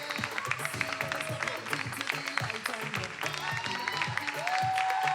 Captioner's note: attendees cheering